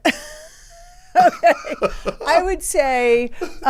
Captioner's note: everyone laughs